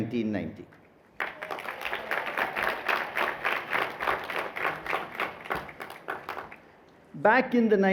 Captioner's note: applause